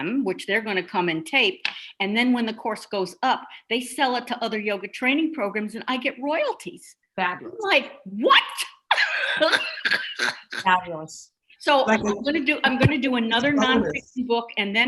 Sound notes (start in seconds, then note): 9.0 laughing